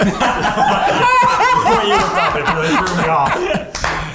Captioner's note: laughs